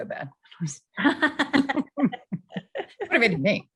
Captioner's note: laughter